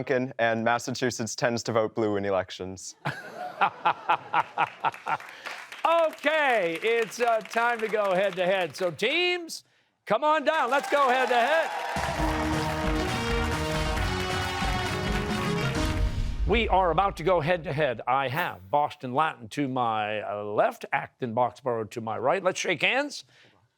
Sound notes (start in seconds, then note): 3.0 laughter; 4.4 applause; 10.4 cheers and applause